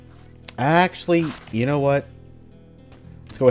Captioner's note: more distant Vulture chatter/gunfire